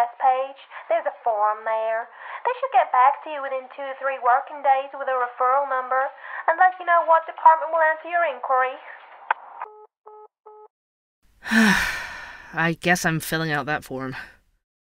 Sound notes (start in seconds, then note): 10.0 call ends; 11.4 sighs